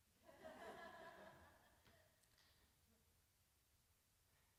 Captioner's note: audience laughs